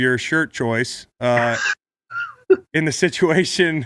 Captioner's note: Sean laughs